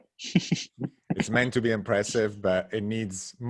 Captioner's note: laughs